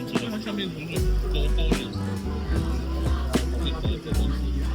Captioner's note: laugh